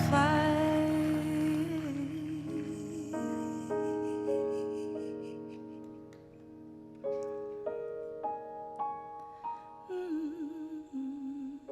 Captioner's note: cheering and Applause